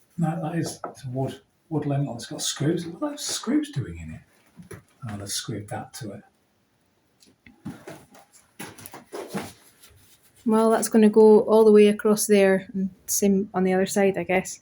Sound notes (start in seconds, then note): none